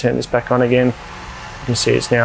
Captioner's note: fan blowing